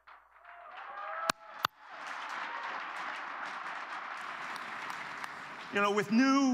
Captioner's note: cheers and applause